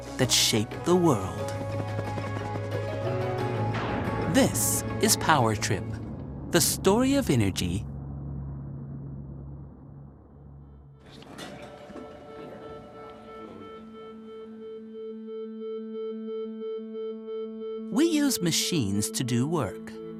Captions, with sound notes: that shaped the world. [helicopter blades whirring] This is "Power Trip: The Story of Energy." [bright music] We use machines to do work